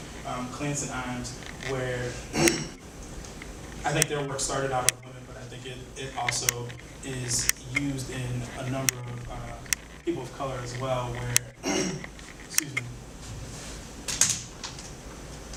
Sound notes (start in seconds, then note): 11.2 coughs